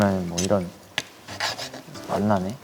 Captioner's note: Scratch